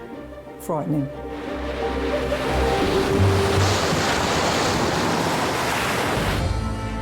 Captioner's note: waves crashing; waves rushing; upbeat instrumental music